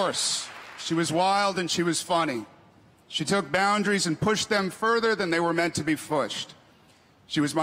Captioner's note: cheers and applause